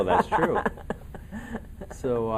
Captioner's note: laughing